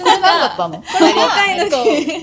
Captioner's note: laughs